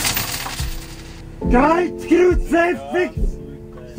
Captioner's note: cursing